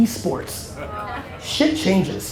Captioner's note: audience laughter